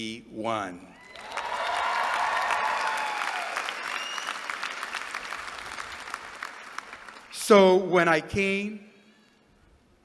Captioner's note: applause